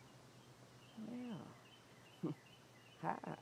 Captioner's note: chuckles